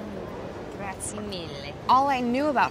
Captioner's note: foreign language